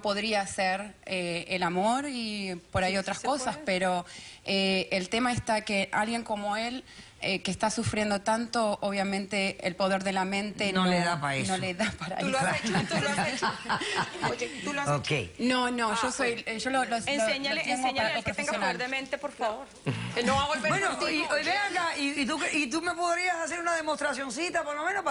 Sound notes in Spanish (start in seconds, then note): 11.8 Risas; 18.0 Hablan al unísono